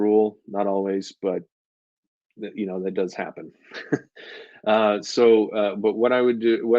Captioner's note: chuckles